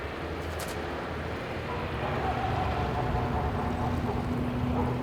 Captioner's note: dogs barking in distance